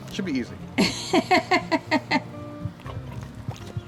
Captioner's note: laughs